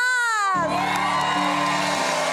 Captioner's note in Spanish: Aplausos